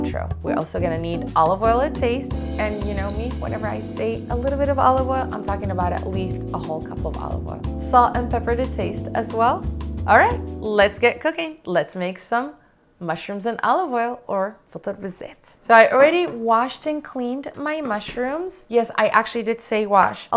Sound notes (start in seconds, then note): 14.1 in Arabic